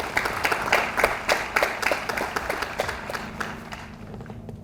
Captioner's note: audience applauds